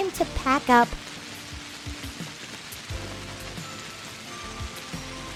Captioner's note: rain pattering